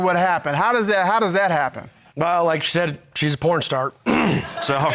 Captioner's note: clears throat; crowd laughing